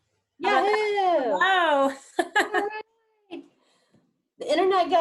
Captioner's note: laughing